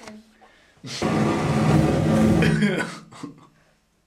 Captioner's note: torch noise, laughing